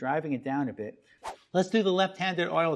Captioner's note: air whooshing